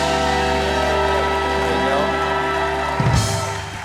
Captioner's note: cheers and applause